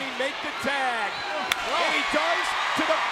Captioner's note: crowd cheering